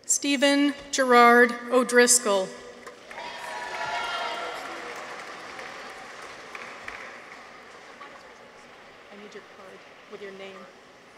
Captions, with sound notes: Steven Gerard O'Driscoll. -(people cheer) -(audience applauds)